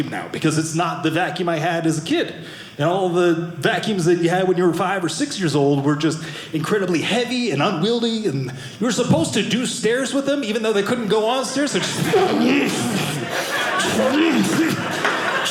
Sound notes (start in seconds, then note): 11.4 audience laughing